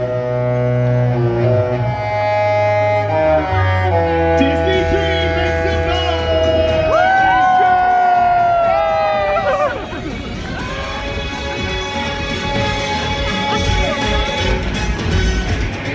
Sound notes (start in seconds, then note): 0.1 sombre instrumental music; 6.0 guests cheer; 10.6 upbeat music